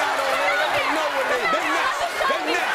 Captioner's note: yelling; audience cheering